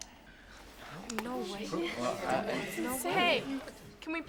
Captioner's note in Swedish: Mall Rats chattar